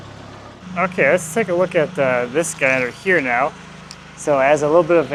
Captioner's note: laughs